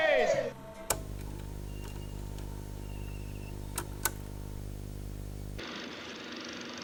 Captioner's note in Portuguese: chiado